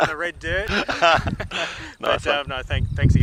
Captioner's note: laughter